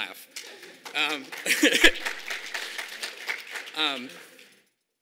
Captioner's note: audience applauding